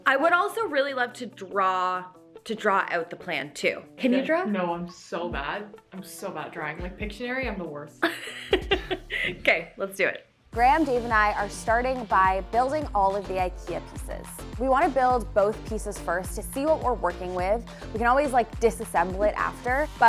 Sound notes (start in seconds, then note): 8.1 chuckles; 8.2 laughs